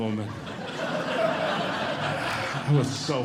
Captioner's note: audience Laughing